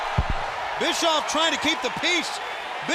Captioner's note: crowd cheering